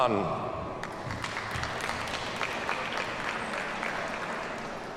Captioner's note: audience applauds